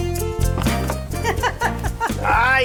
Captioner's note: Yuya Laughs